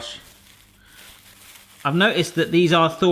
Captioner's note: rustling